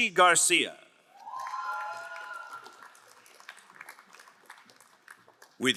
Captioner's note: crowd applauding